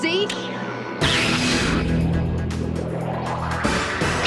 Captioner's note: electricity zapping